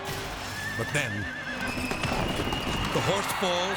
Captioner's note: horse neighs; horse thumps